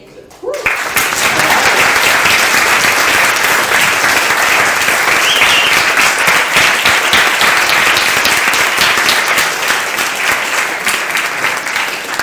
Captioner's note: claps and cheers